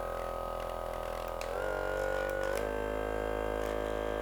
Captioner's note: massage gun whirring